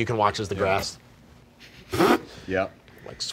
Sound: laughing

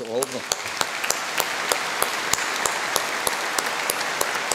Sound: all applauding

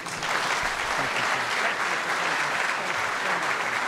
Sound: applause

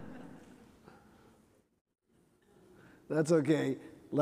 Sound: chuckling

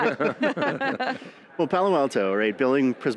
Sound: group laughs

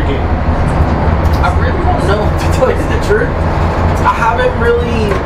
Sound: laughs

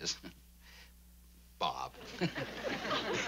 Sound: chuckles; chuckles

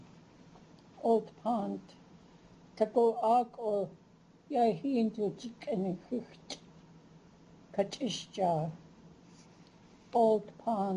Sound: non-english speech

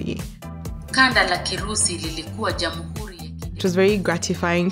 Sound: computer speaking Kiswahili

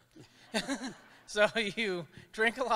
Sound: chuckles

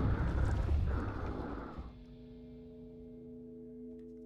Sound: creature growls

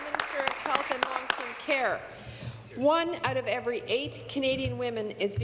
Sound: applause

